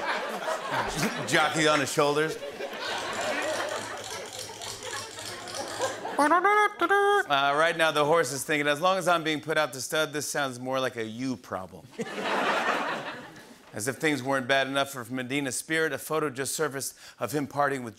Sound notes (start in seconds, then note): 3.0 drumsticks clacking; 5.5 imitates fanfare